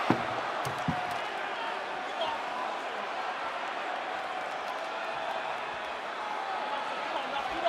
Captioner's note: crowd chatter